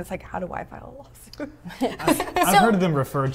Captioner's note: chuckles